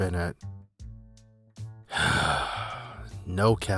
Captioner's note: sigh